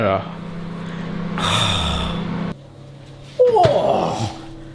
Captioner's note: sighs; grunts